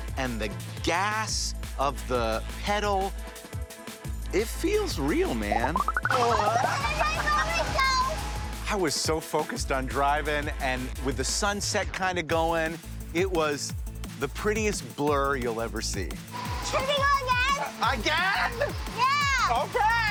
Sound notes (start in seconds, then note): 3.1 upbeat music; 5.7 graphics trilling